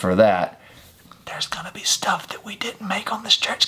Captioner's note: whispers